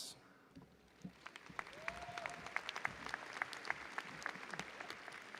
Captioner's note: audience applauding